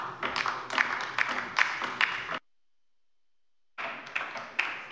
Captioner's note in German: Beifall bei der LINKEN